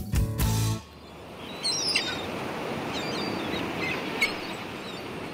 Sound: seagulls squawking

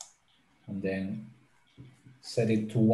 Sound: mouse clicking

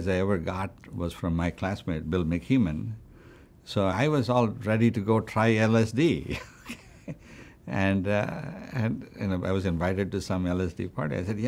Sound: laughs

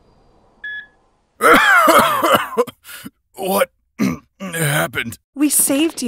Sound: cough

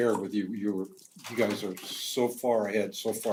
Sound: none

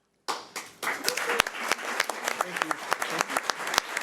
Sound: audience clapping

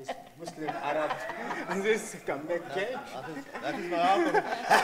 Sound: audience laughing

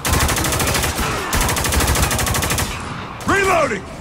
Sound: machine gun fire

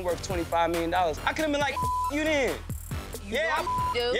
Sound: beep; beep

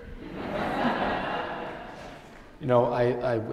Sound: attendees laughing

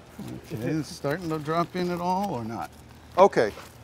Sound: voiceover

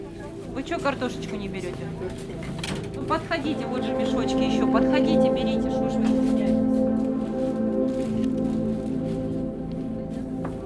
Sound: voice-over

